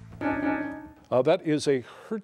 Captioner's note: bell dings